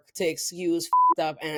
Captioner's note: beep